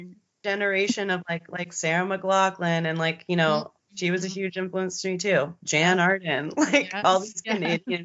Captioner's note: both giggling